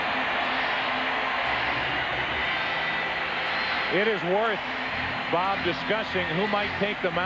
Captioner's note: cheering